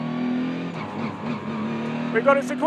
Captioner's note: car engine stuttering